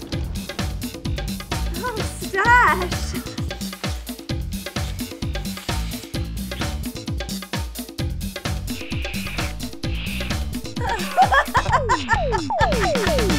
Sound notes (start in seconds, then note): 3.7 passionate kissing sounds; 8.8 Dinosaur kissing sounds; 10.6 affectionate laughter